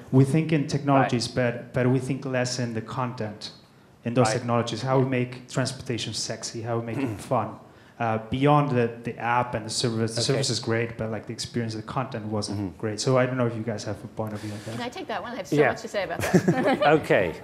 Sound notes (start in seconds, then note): 15.8 faintly speaking; 16.1 laughing